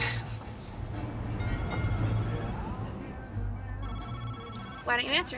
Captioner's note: phone ringing